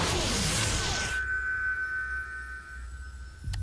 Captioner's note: jet roars; button beeps, rocket blasts